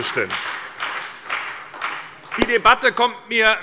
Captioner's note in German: Beifall bei Abgeordneten der SPD und bei der FDP